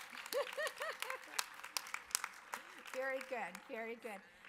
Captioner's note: audience applause